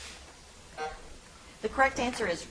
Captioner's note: timer buzzing